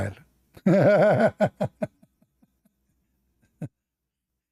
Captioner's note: Ketawa